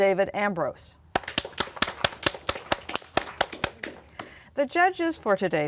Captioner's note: applause